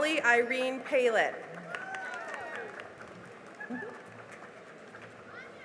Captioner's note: cheering and applause